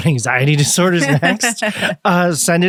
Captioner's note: laughs